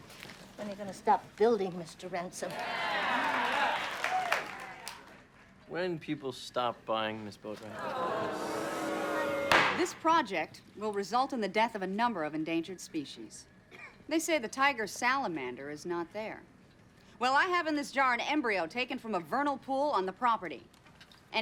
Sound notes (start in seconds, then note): 2.4 crowd cheering; 7.6 crowd booing; 7.9 gavel banging